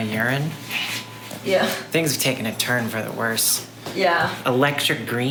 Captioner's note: none